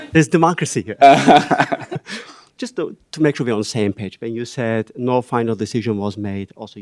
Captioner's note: laughter